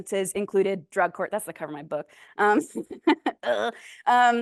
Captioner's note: laughs